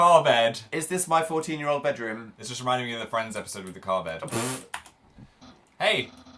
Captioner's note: snorts